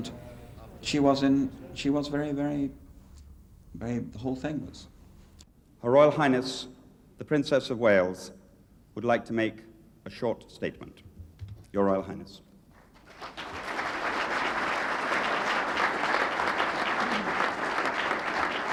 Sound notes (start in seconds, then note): 14.5 crowd clapping